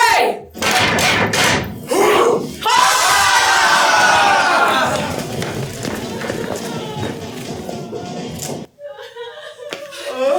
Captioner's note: ALL pound sticks, grunt, and cheer